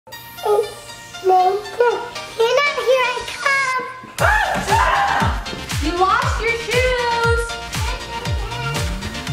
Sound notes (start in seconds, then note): 4.1 upbeat music; 4.2 shouts